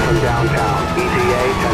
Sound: Static

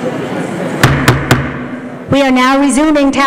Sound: knocking

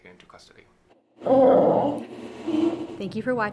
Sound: grunt

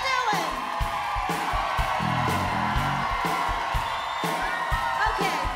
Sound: crowd cheers

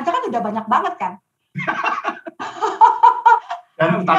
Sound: laughing

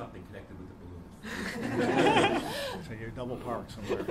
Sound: laughing

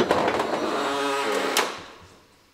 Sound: whirring, crackling

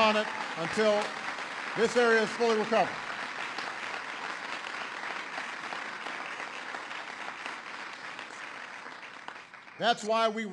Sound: applause

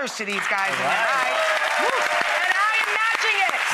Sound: audience applauds

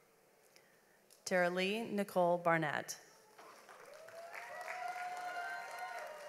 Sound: audience applauds

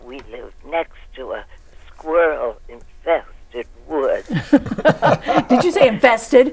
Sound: all laughing

